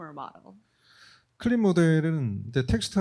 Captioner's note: speaking korean